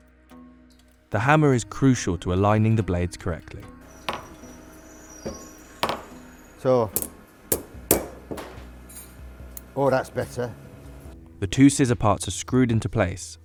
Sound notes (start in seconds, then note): 5.0 tapping